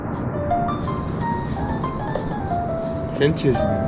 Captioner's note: sound of dripping oil